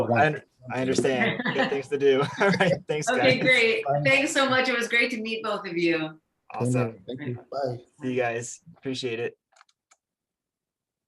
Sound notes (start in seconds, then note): 2.2 laughs